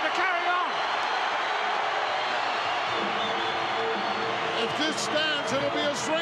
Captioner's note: audience cheering